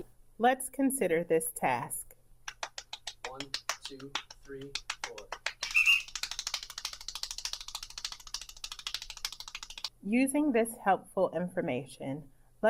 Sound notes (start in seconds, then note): 2.2 clapping; 5.7 whistle blows; 6.1 fast clapping noises